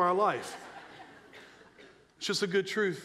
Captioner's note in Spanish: risas de la audiencia